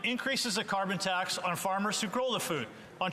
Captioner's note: speaking French